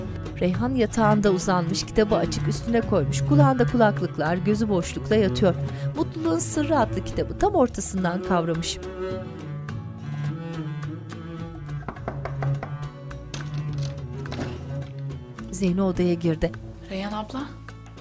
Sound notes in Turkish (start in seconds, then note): 11.8 Kapı vurma sesi